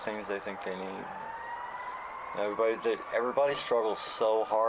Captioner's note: siren in the background